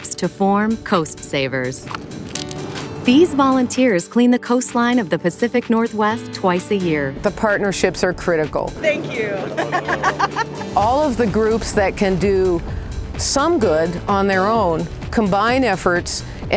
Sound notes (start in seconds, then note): 8.8 laughs